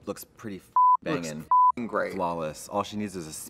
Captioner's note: beep